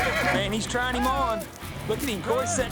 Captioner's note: horse neighs, bucks